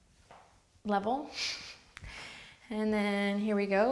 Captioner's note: chuckles